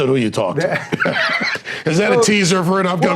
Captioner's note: laughing